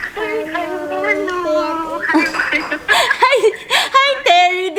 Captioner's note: laughing